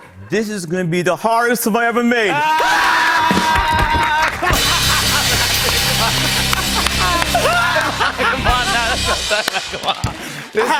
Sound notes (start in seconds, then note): 3.3 laughter and applause